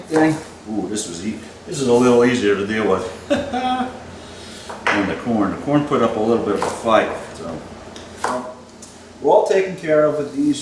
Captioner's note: laughs